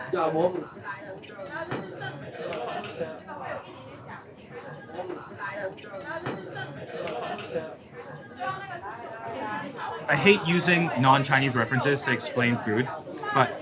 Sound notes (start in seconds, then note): 0.0 speaking in foreign language; 1.2 people chattering